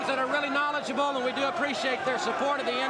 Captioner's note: crowd chatter